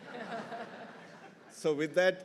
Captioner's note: everyone laughing